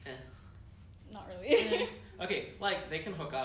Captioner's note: laughs